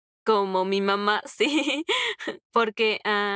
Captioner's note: laughs